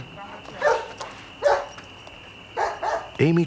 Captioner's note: dog barking